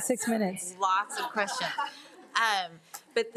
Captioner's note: group laughs